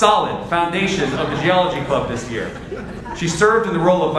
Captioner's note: audience laughs